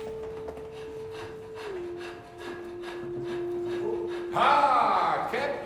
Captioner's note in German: hecheln